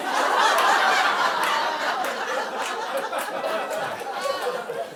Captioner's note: audience laughing